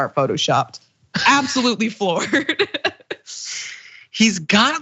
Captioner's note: laugh